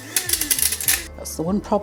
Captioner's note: coffee grinder whirring